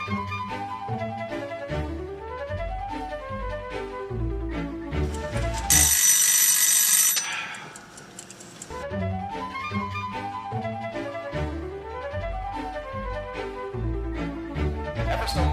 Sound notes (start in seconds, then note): 5.1 timer rings; 7.9 man sighs